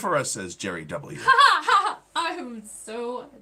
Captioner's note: laughing